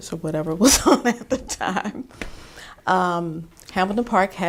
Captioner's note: chuckles